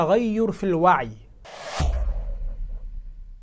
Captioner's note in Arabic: مُؤَثِّرَات صَوْتِيَّة